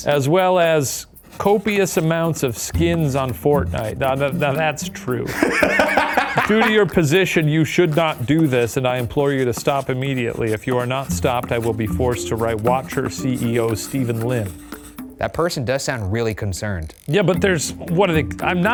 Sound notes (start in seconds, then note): 5.2 laughing